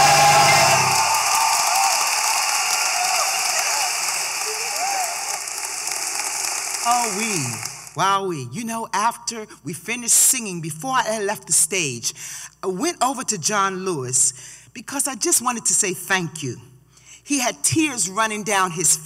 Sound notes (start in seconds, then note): 8.0 cheering & applause